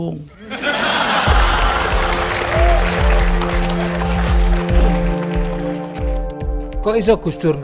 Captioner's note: applause